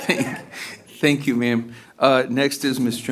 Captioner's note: laughter